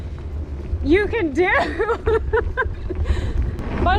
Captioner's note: laughs